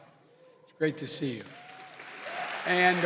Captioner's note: applause